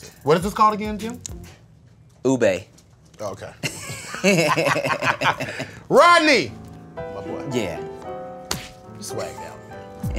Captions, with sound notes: What is this called again, Tim? - Ube. - Oh, okay. (both laughing) - Rodney! My boy, you swagged out man.